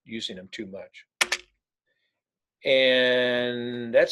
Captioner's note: keyboard clicking